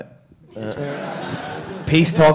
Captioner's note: audience laughing